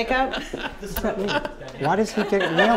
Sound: laughter off camera

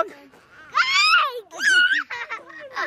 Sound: shrieking; laughing

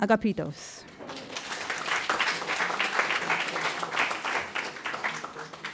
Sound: audience applauding

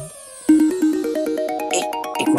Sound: phone rings

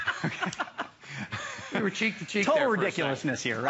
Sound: laughter

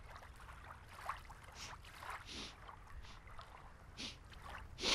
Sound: sniffs

